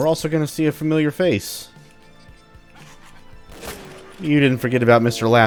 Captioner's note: Laughing Tom laughing and firing